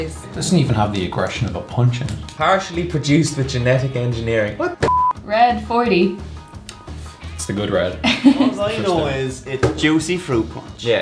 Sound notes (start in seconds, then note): 8.0 laughs